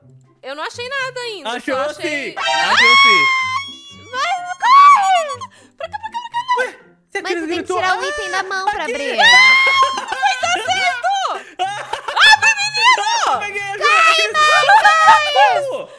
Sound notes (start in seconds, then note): 2.4 scream; 11.7 laughter and screams